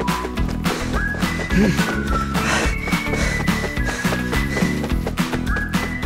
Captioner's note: breathing hard